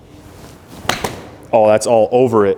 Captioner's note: ball smacking